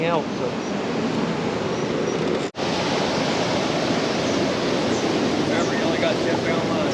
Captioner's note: water rushing